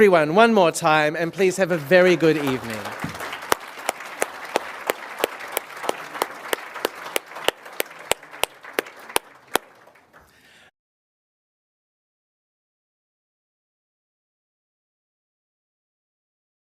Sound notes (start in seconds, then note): 4.6 applause